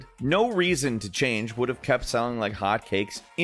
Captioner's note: none